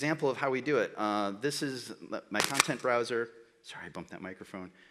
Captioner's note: static